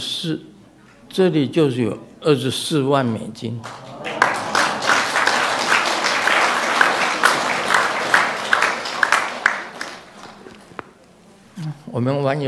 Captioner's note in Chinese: 眾鼓掌